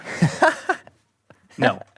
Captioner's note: laughing